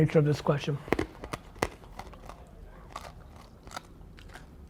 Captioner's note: crunching